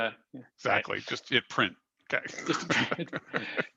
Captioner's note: laughs